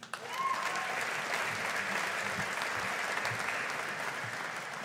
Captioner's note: audience applauding